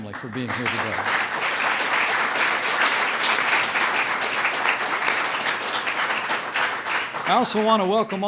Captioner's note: applause